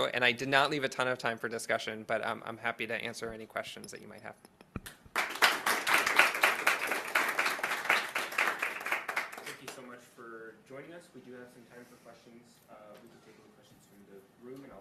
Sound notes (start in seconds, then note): 5.0 attendees applauding